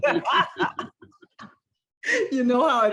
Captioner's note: laughter